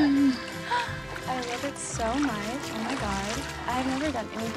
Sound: gasps

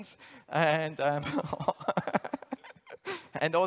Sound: laughs

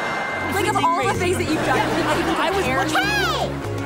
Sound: overlapping chatter

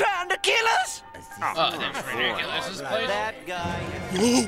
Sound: grumbling

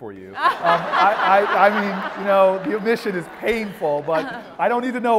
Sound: laugh

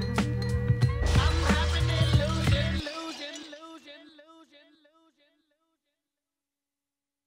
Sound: glass shatters

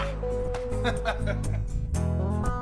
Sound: laughing; guitar music

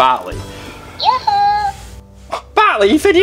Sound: Botley chimes

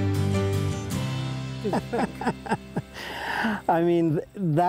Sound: laughter

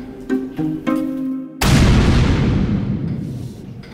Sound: smashing sound

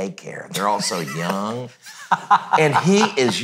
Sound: laughs

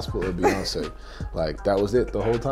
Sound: laughing

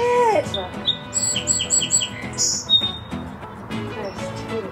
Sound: birds chirping

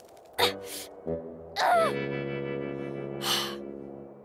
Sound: grunting

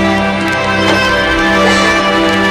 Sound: stomps

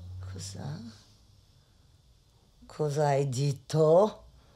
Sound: speaks foreign language

